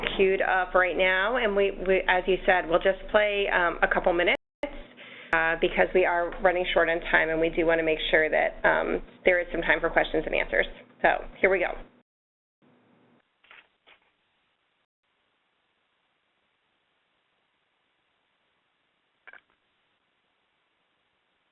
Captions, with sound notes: cued up right now and as you said we'll just play a couple minutes because we are running short on time and we do want to make sure that there is some time for questions and answers. So, here we go. (silence)